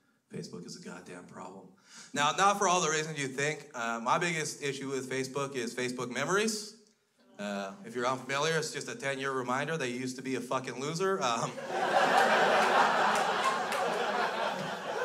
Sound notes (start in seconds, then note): 11.4 crowd laughs